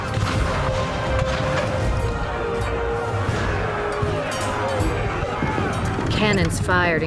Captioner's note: cannon blasts, gunfire